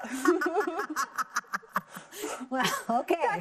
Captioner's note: both laughing